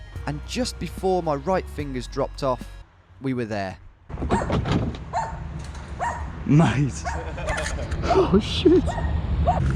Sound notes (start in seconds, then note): 4.2 dog barking; 6.7 laughing